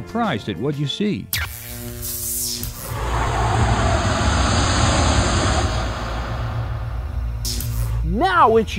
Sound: sound Effects

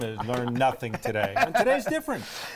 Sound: laughter

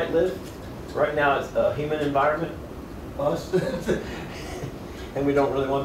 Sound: laughs

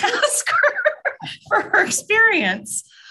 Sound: laughter

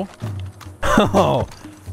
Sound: laughs

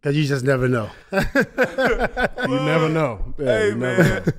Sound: laughs

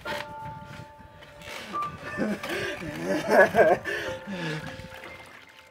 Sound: crying

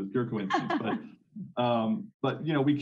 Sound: laughing

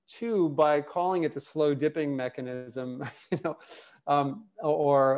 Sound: laughs

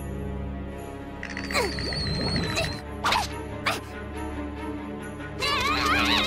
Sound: grunting

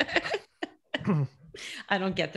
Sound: laughing

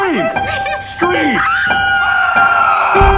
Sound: screams; unsettling music

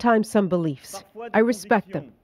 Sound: speaking French

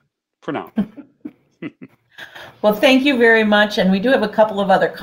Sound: chuckles

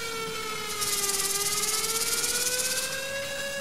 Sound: alarms ring

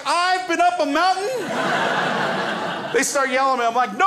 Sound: crowd laughs

